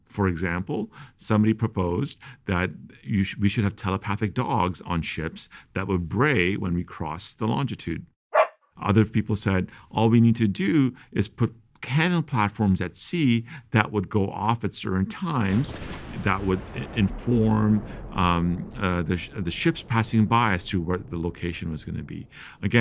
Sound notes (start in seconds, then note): 8.3 barking; 15.7 explosion